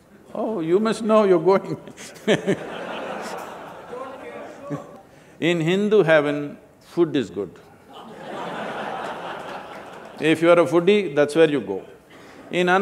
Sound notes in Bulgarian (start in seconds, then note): 4.7 Смях; 7.8 Смях